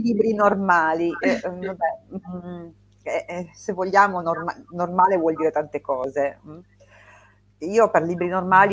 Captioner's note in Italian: schiarire la voce